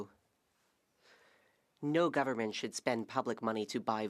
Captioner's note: speaking French